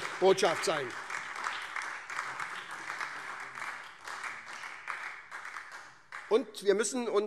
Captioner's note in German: Beifall SPD und DIE LINKE